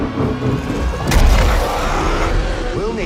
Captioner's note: roaring